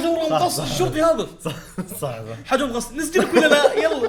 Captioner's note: laughs